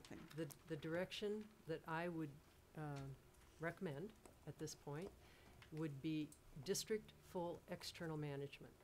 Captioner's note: none